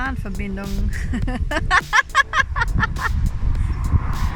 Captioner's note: laughter